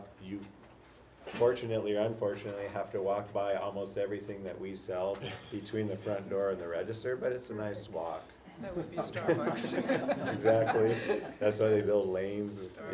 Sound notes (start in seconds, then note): 8.6 laugh